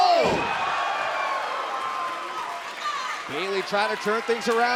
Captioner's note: crowd cheering